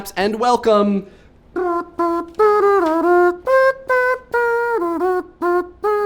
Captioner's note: humming